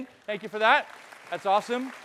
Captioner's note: audience clapping